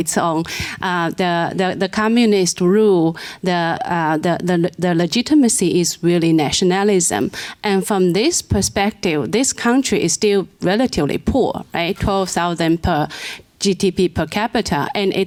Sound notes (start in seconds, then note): none